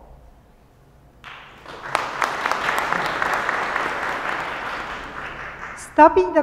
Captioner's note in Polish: oklaski